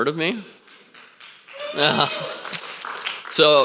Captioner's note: clapping and cheering